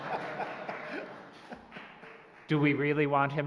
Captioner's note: laughter